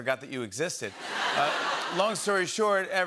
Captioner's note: laughter